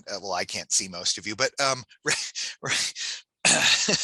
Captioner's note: laughs